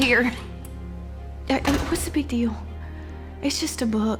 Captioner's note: door shuts